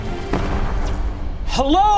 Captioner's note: explosion booming